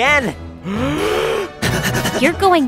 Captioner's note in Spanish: sonidos intensos de subida